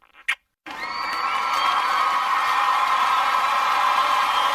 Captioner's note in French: vives acclamations et applaudissements